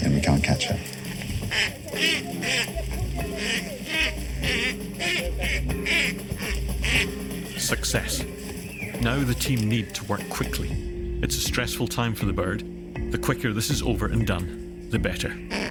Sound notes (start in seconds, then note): 0.1 Kākāpō squawking; 1.6 muffled chatter